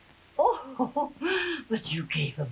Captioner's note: Marquesa chuckling